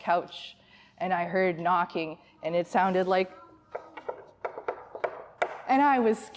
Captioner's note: knocking